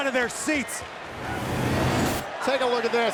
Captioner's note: whooshing sound plays